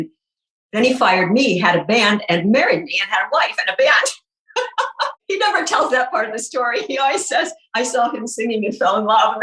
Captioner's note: laughing